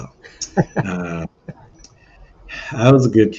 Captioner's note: laughs